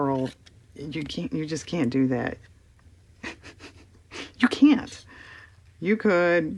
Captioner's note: laughs